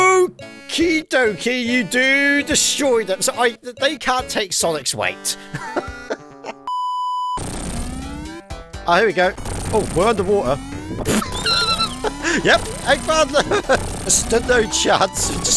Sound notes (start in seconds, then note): 5.4 chuckles; 11.0 laughs